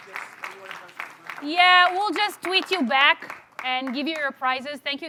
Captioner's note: applause